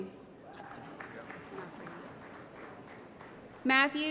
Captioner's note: applause